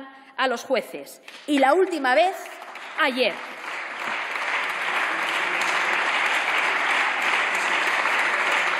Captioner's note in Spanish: Aplausos